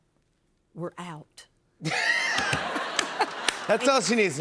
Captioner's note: laughter